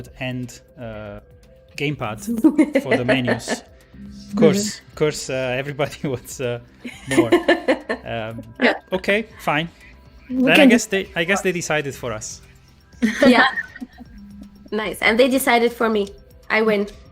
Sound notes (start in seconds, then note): 6.9 laughs